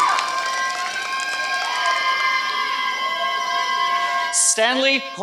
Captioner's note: applause